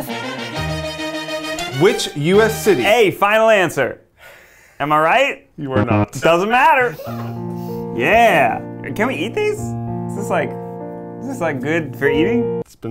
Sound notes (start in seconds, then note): 0.0 upbeat trumpet music; 5.8 beep